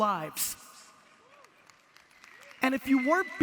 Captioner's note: audience applause